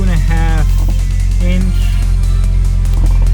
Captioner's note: rattle; more rattling